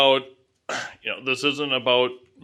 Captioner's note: clears throat